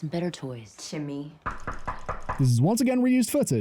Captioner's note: knock knock